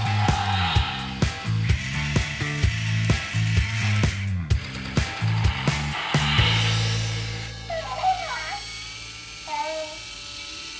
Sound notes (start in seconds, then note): 4.4 flapping sound; 7.7 toy sounds